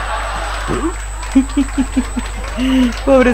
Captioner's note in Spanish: risas